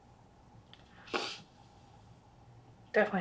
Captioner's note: sniffs